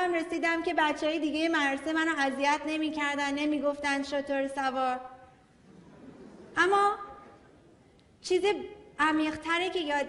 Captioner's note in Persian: خنده‌ی حضار